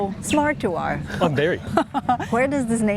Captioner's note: laughs